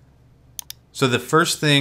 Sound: mouse clicks

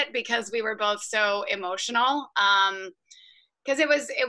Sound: none

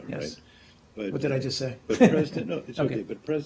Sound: laughter

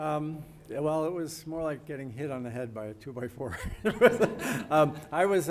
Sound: laughs

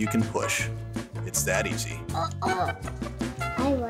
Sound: child celebrates

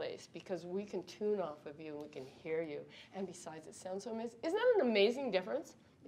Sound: none

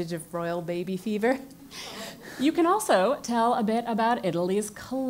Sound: laugh

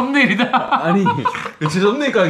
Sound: giggles

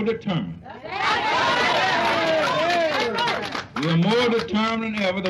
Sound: cheers and applause

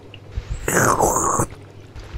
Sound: drinking sfx

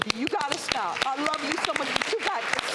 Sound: audience clapping

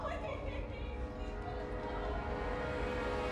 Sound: sobbing

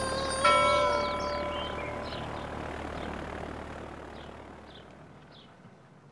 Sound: light chimes; A funeral bell; birds chirping

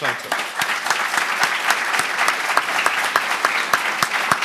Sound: applauding

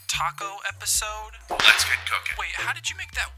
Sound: whip cracking

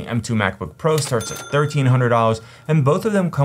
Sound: cash register chimes

